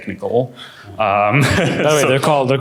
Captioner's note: laughter